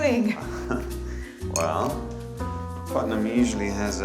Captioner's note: chuckles